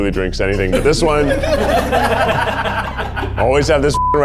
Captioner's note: all laughing